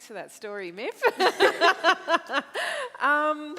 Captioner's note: both laugh